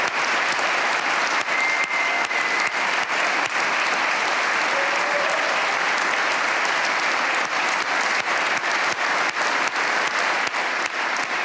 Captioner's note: cheers and applause